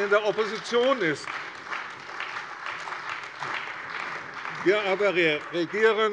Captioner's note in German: Beifall bei der CDU und dem BÜNDNIS 90/DIE GRÜNEN